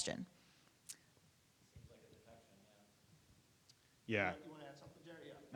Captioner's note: speaking faintly off mic